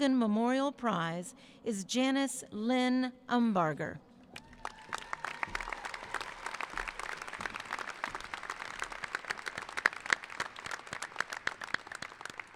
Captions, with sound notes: Memorial Prize is Janice Lynn Umbarger. (cheering) (applauding)